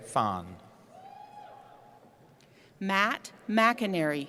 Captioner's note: cheering